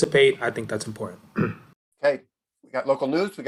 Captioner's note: clears throat